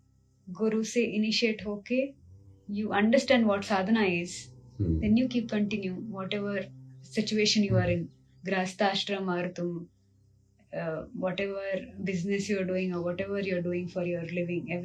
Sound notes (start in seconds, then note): 4.8 गला साफ़ करने की आवाज़